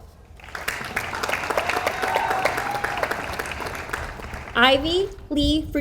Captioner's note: audience applauds